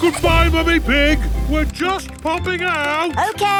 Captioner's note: giggles